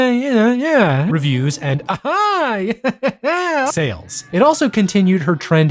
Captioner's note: laughs